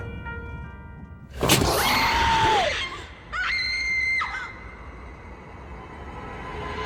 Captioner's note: ominous music; woman screaming